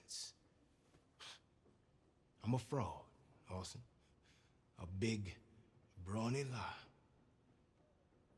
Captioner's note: scoffs